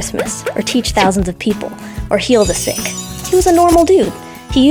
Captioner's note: chimes